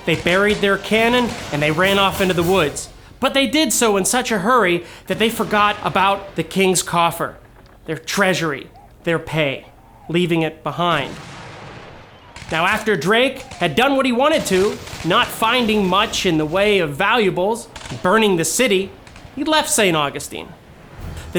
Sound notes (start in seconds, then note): 0.0 guns fire men yelling; 10.9 gun fire